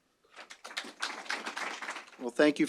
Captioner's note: applause